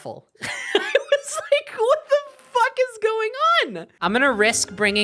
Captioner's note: laughing